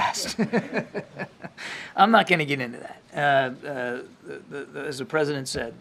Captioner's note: laughter